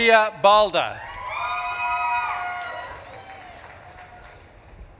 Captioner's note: audience clapping